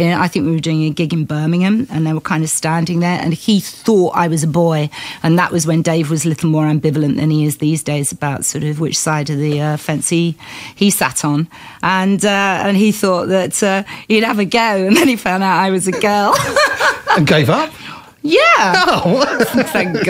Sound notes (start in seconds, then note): 15.9 laughter